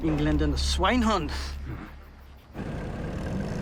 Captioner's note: speaking German